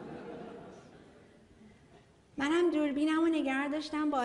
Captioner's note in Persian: خنده‌ی حضار